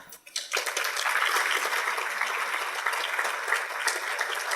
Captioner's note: audience applauding